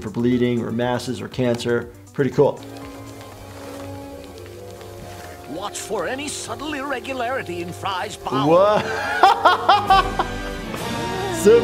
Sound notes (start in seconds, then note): 3.0 mysterious music; 9.3 laughing; 10.2 exciting music